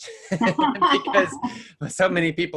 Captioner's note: laughing